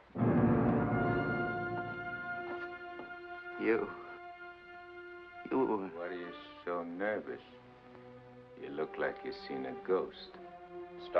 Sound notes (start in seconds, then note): 0.0 dramatic music; 5.3 stammers; 10.2 ominous music